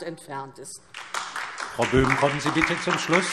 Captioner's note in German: Beifall DIE LINKE